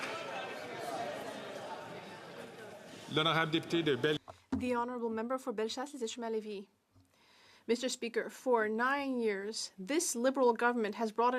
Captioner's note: some Applause